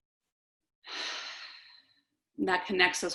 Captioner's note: inhales and exhales